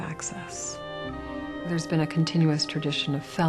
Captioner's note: voiceover